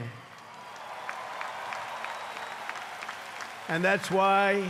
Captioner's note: applause